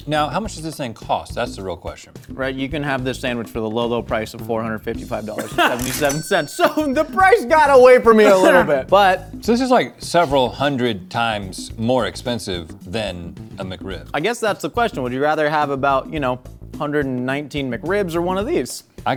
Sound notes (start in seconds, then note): 5.4 Rhett coughs; 5.4 both laugh